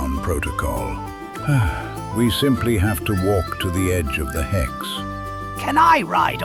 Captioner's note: sighs